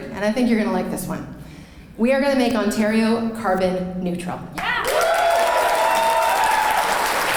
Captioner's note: clapping